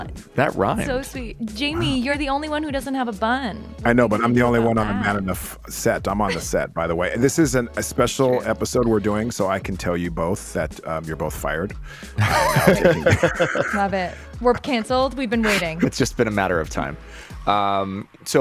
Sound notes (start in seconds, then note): 4.3 faintly speaking; 12.1 Justin laughs